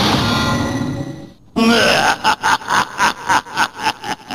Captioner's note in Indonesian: Huahahahahahahaha